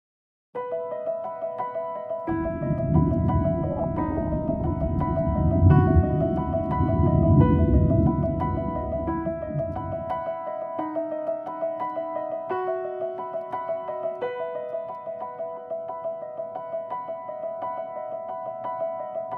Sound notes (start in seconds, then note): 1.4 soft piano music; 2.4 ambient whooshing